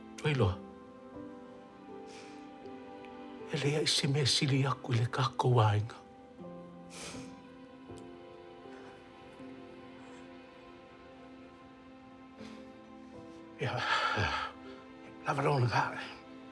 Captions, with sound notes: Ua e iloa? E leai se mea e sili atu i le tatou aiga. - (INHALES SHAKILY) - Ia... lava loa ga.